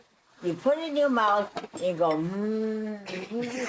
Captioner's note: laughter